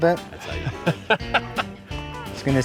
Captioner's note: laughs